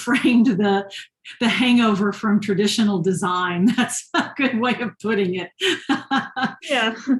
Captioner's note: laughter